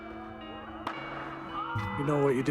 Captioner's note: loud crack followed by frustrated groans